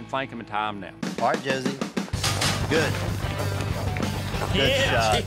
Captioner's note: gate clangs open